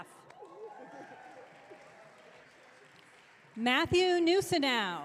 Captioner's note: audience cheering